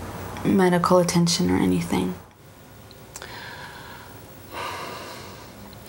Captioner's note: sighing